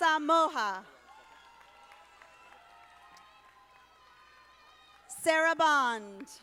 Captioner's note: audience applauding